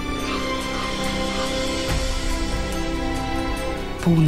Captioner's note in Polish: słychać głos kruka przelatującego nad głowami